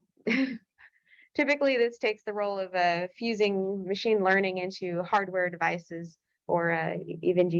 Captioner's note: laughter